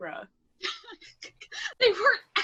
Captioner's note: laughs